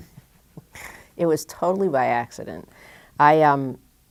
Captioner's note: chuckle